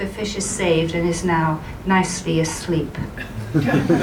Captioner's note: laughter